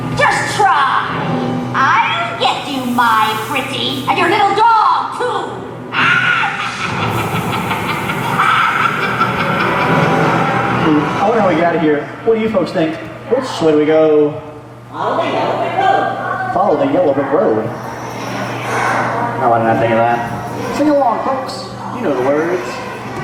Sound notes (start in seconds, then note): 6.0 cackling laughter; 15.4 voice of 'Munchkins'